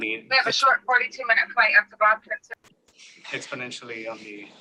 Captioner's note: background chatter